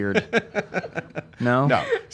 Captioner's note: laughs